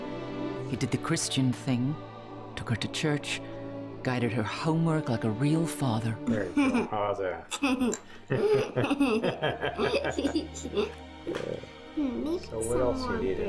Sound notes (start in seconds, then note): 7.4 Mona laughs; 7.5 Mona and George laughing